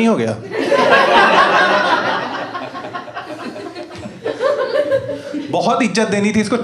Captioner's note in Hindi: हँसना